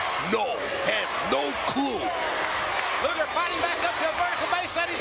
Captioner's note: crowd chants USA